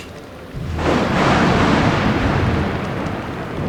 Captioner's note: loud Thunder Crack From Outside